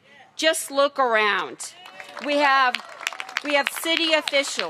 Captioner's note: cheers and applause